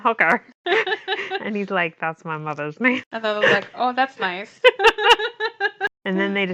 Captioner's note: laughs; laughs